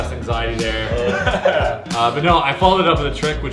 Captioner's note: laughing